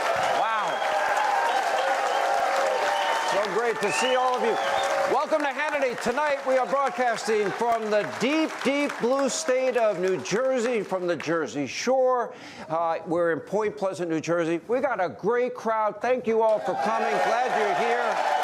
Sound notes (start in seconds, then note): 0.0 applause